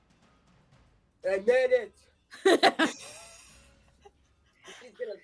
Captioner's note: laughing